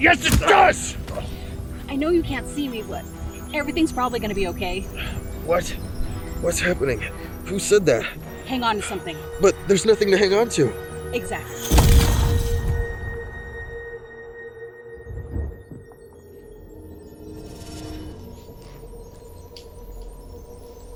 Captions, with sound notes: - Yes it does! - I know you can't see me, but everything's probably gonna be okay. - What? What's happening? Who said that? - Hang onto something. - But there's nothing to hang onto. - Exactly. (lightning striking) (soft music)